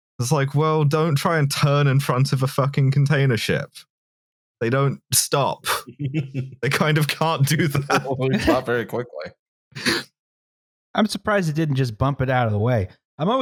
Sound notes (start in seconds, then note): 5.7 chuckles